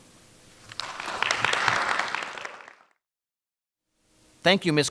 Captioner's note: audience applauding